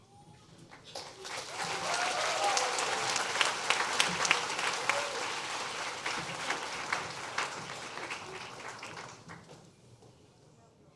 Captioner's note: applause